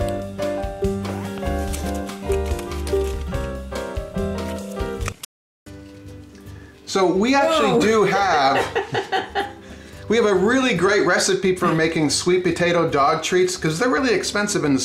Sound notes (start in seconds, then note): 0.0 dog panting; 0.0 upbeat jazzy instrumental; 9.3 camerawoman laughing